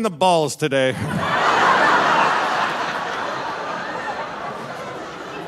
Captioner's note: audience laughing